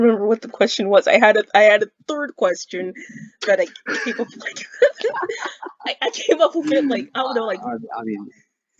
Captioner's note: laughs